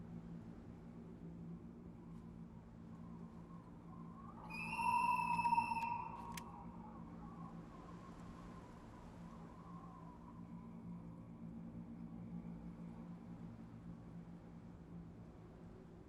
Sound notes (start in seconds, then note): 4.4 whistle blows